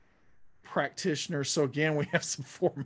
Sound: laughing

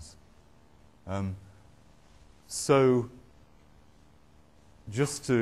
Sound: none

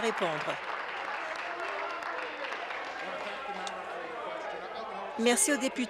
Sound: applause

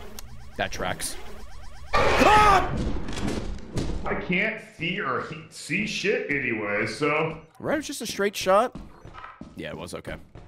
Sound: screams

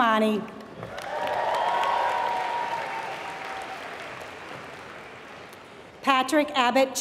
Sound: applause

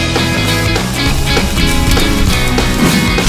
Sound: crackling

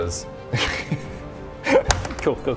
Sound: doubtful laughter

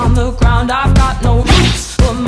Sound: achoo

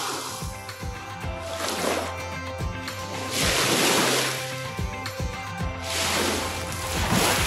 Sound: upbeat music; waves lapping

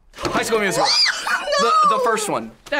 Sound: laughs

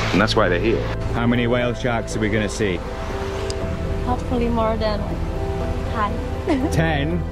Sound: laughing

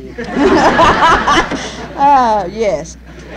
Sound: laughter

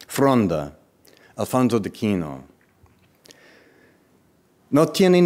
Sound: speaking in foreign language

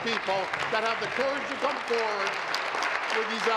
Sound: applause

